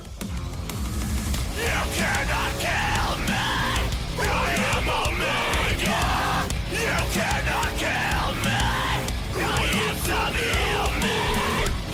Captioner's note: obnoxious Screaming